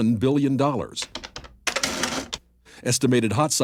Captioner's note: adding machine clicking